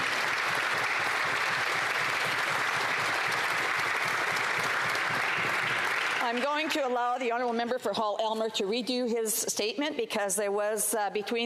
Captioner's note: some Applause